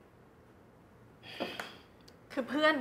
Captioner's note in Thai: เสียงถอนหายใจ